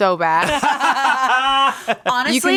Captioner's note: everyone laughs